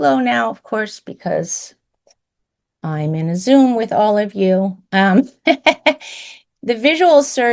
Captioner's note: laughs